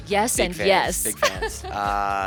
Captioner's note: laughs